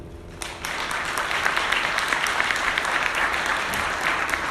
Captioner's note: audience applauding